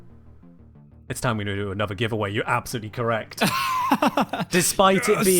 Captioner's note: big laugh